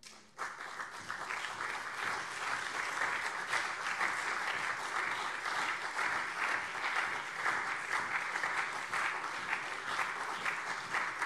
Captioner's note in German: Beifall CDU und SPD